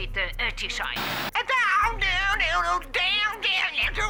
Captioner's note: imitates guitar riff